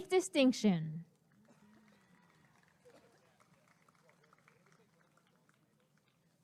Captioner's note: applause and cheering